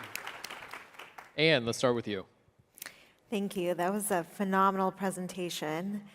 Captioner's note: applause